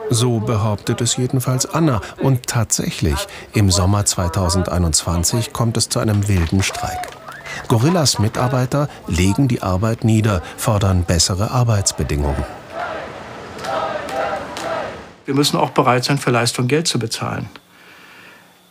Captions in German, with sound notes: So behauptet es jedenfalls Anna. Und tatsächlich, im Sommer 2021 kommt es zu einem wilden Streik. (Pfiffe) Gorillas-Mitarbeiter legen die Arbeit nieder, fordern bessere Arbeitsbedingungen. (Skandierte Rufe) Wir müssen auch bereit sein, für Leistung Geld zu bezahlen.